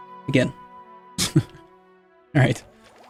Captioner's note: self-deprecating chuckle